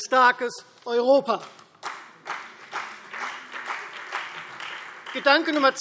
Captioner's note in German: Beifall Freie Demokraten und CDU